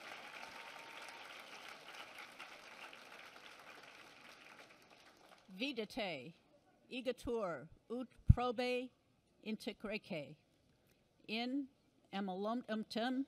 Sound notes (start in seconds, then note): 6.3 non-english speech